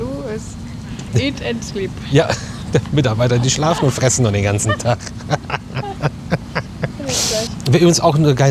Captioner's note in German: gelächter